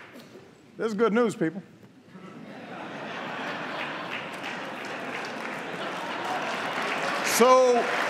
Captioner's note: laughter and applause